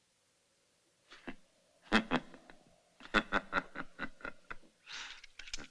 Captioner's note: chuckling